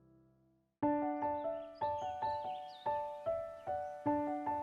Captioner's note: birds chirping